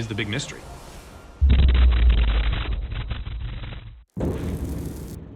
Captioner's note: thunderous boom